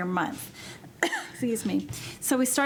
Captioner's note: coughing